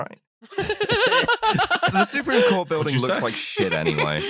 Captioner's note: laughs